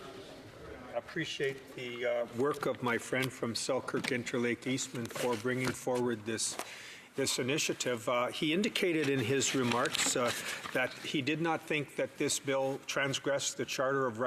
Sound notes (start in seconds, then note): 0.3 speaking in French; 7.9 speaking in Fr